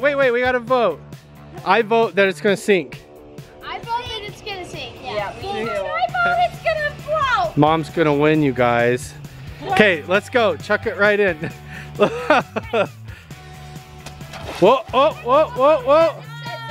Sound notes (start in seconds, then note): 11.3 laughs; 13.5 splashes